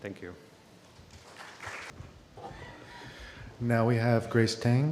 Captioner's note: applause